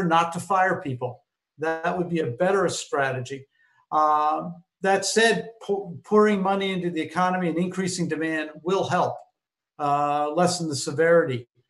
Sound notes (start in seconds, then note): none